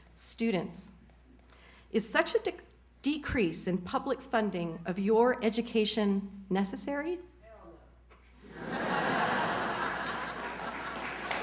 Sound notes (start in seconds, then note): 8.3 laughter